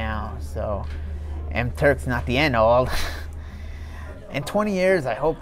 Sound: chuckles

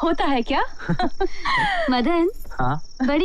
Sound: chuckles

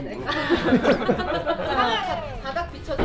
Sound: hahahahahahahahahahaha

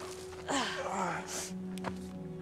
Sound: both groan

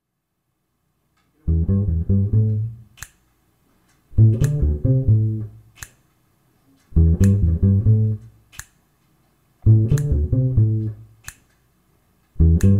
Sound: snaps

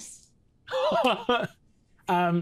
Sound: laughs

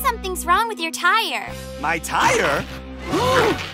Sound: gasping

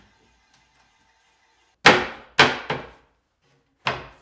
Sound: drilling screws

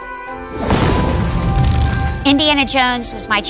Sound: whooshing

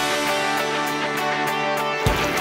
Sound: splashing

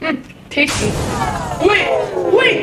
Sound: powering down

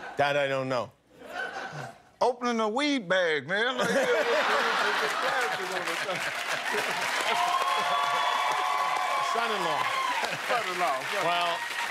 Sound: laughter

